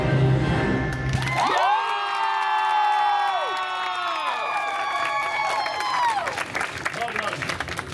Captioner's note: guests cheering and applauding